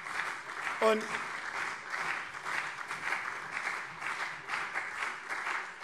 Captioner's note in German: Beifall CDU und SPD